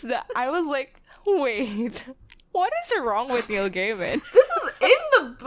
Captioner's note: laughs